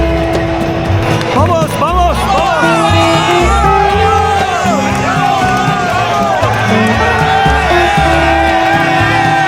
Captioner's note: All the Mexicans still cheering for Korea